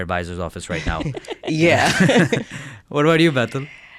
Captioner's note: laughs